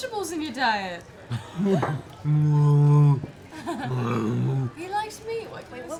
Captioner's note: groans, growls